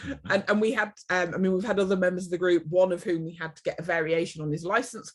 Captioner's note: laughs